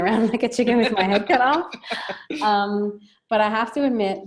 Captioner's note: laughing